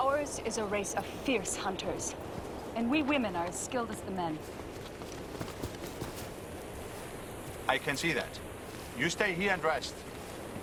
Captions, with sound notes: - Ours is a race of fierce hunters and we women are as skilled as the men. (footsteps) - I can see that. You stay here and rest.